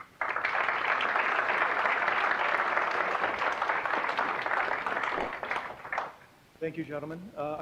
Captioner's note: applause